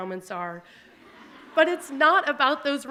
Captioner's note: audience laughing